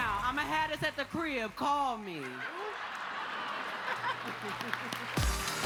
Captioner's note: cheers and applause